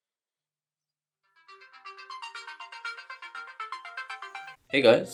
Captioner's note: alarm Goes off